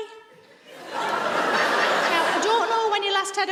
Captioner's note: audience laughs